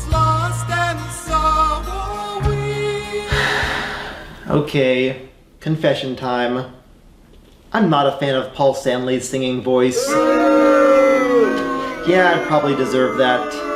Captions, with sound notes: [Sigh] Okay, confession time: I’m not a fan of Paul Stanley’s singing voice. [Booing] Yeah, I probably deserve that.